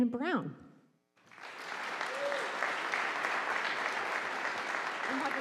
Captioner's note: audience applauding